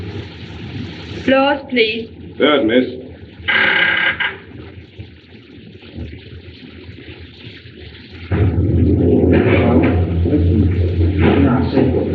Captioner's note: ship's Horn Blows